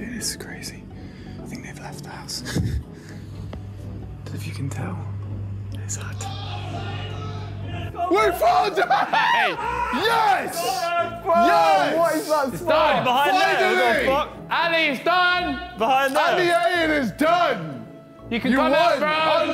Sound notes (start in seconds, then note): 7.7 screams